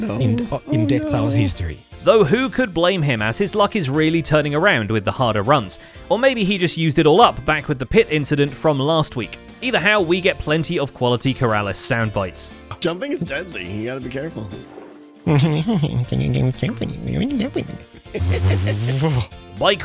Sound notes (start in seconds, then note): 16.8 mocking gibberish; 17.8 laughs